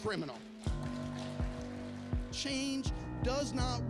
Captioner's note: applause